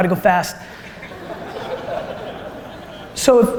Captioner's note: audience laughter